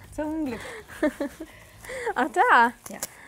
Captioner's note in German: lacht